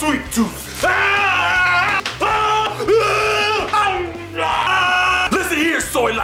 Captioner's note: yelling